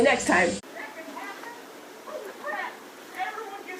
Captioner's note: squeaks squeaks; distant yelling; from a distance, yelling frantically